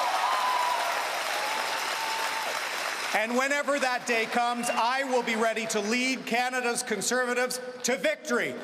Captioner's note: cheering and Applause